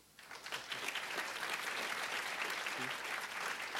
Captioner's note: applause